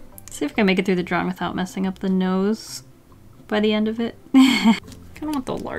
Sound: laughs

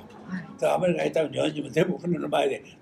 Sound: foreign language

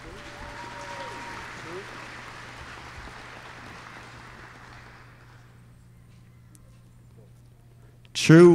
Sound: applause

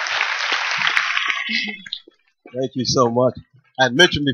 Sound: applause

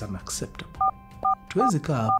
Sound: phone beeping

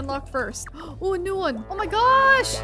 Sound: gasping

